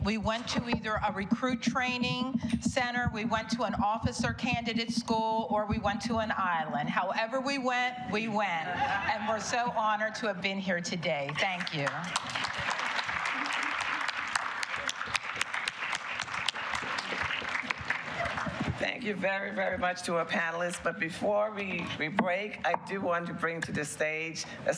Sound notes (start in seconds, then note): 15.3 applause